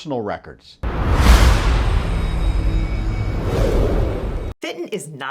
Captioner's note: logo whooshing